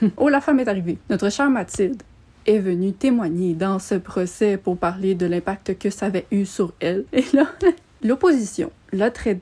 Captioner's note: laughs